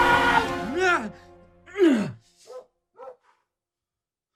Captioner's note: weird grunting